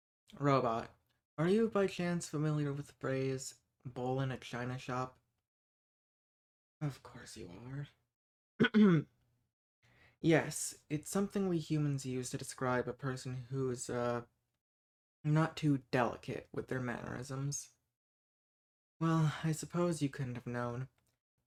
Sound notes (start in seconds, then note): 6.8 whispering; 8.6 clears throat